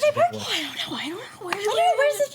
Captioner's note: overlapping chatter